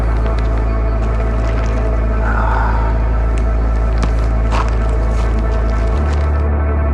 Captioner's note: Rick sighs